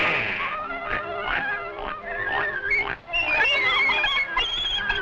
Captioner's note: pigs oinking; piglets squealing rhythmically